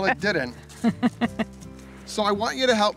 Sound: woman laughs

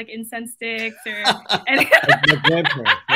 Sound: laughs

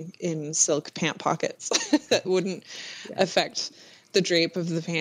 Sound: laughs

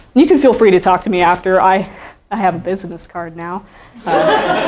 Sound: laughing

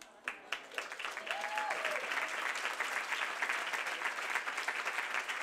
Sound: audience applauding and cheering

